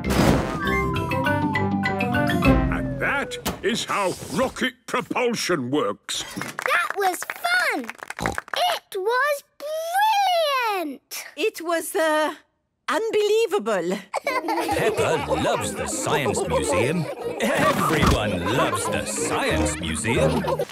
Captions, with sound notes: And that is how rocket propulsion works. - (applause) - That was fun! - It was brilliant! - It was, er... ...unbelievable! - Peppa loves the Science Museum. Everyone loves the Science Museum!